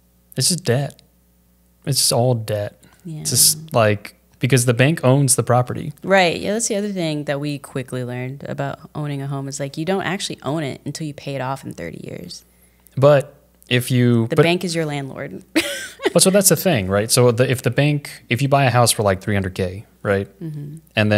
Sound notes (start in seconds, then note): 15.6 laughs